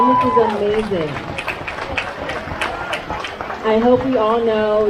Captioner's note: crowd cheers